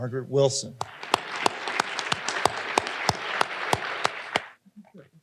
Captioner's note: audience applauding